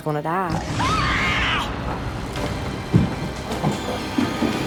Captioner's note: Candace Re-Enactor screaming; suspenseful music